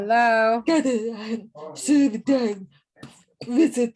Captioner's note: people talking in the background